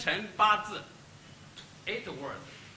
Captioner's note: speaks Chinese